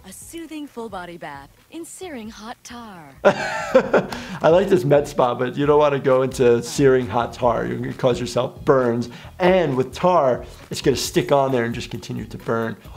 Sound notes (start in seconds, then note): 3.2 laughing